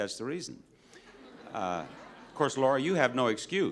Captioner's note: audience laughs